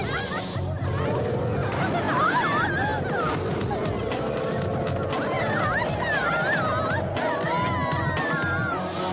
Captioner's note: cheering; screaming